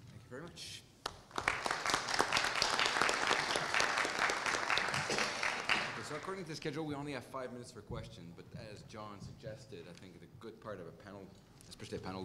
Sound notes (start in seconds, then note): 1.0 applause